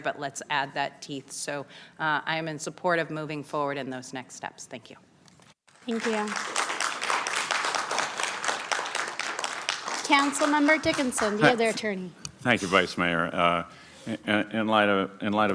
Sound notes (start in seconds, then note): 9.8 applause